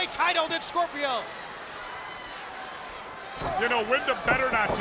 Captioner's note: spectators cheering